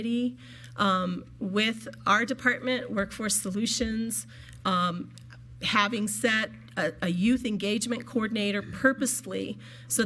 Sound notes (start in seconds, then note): none